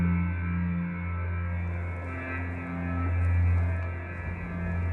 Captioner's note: wind and water sounds